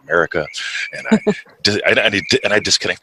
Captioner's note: chuckles